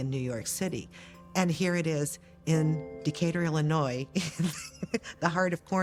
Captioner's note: laughs